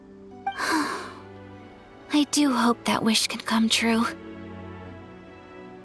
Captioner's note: sigh